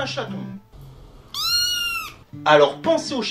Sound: meowing

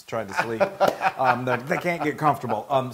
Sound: laugh

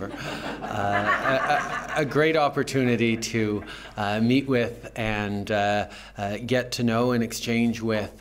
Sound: laughter

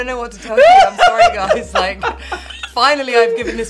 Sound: Tan laughing hysterically

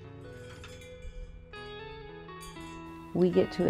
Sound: chimes chiming

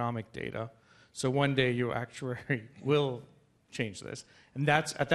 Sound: laughs

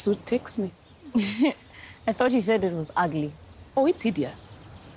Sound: chuckles

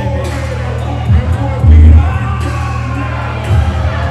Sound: crowd booing

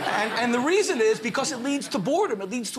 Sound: laughter

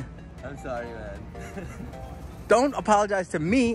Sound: laughs

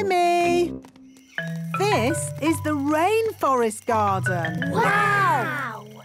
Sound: rainforest sounds

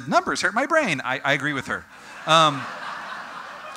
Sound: audience: Laughter

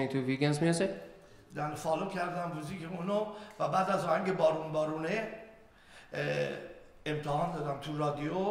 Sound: speaking in farsi

